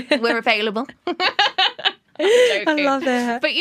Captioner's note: laughter